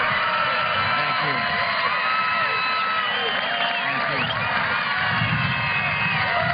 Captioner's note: cheers and applause